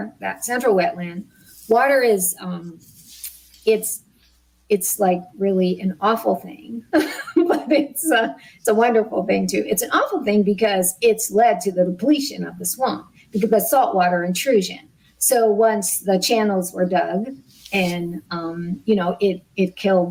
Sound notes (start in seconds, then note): 6.7 laughs